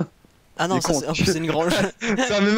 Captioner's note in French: rire